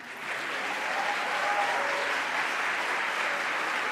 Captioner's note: applause